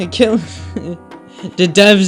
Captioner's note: taking a deep breath to contemplate life choices